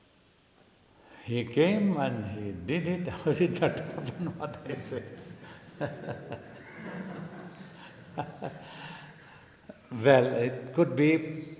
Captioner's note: laughs